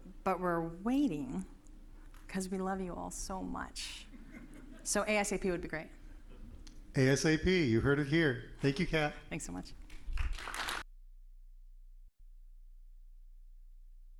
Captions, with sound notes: but we're waiting because we love you all so much. (audience laughing) So ASAP would be great. - ASAP, you heard it here. Thank you, Cat. - Thanks so much. (audience applauding)